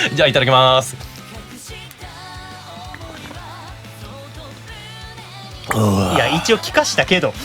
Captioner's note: gulp